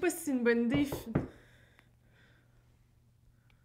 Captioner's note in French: on frappe à la porte